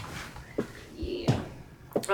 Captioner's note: footsteps